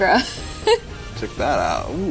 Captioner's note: laughing